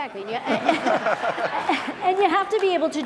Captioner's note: laughing